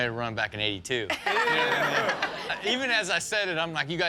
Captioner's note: all laughing